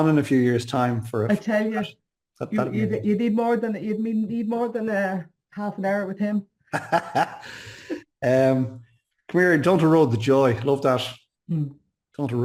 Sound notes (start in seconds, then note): 6.7 laughs